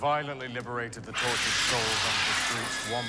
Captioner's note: prisoner hisses